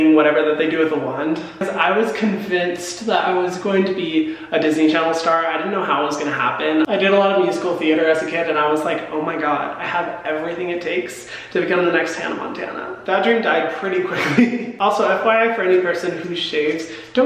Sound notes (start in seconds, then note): 14.1 laughs